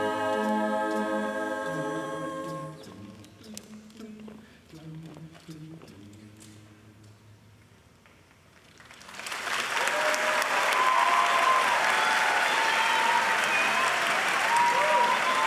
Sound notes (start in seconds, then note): 8.8 crowd cheering and applauding